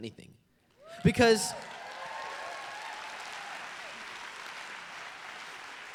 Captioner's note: applause